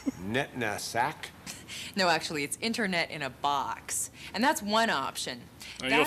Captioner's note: chuckles